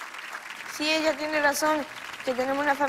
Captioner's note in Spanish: Aplausos